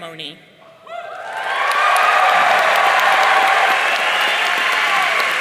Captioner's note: audience cheering